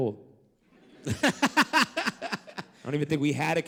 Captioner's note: laughter